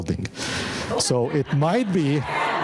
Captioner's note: audience laughing